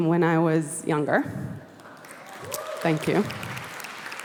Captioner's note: applause